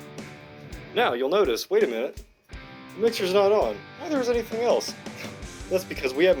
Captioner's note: scoff